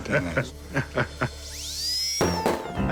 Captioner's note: drill whirring